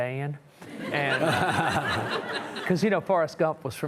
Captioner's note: audience chuckling